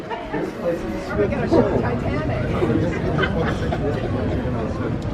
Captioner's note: laughs